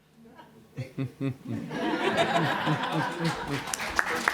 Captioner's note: laughter; applause